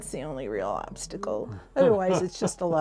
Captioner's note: laughing